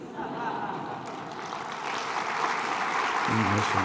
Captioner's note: applause